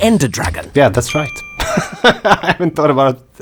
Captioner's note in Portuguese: Risos